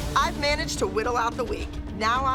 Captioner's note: none